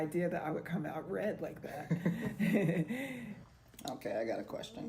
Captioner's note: laughs